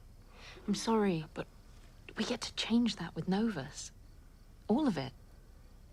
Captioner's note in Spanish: none